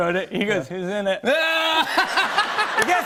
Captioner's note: laughter